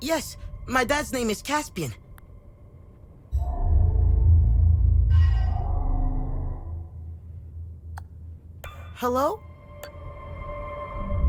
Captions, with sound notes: Yes, my dad's name is Caspian. (brooding music) (menu chimes) Hello?